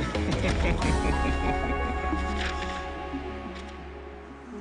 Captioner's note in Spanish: Lucas ríe